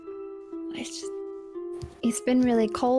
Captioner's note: whispered